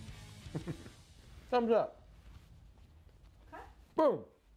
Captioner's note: laughs